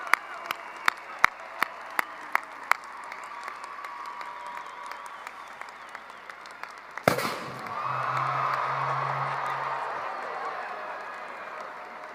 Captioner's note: cheering and applause